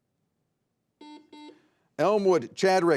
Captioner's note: buzzer beeps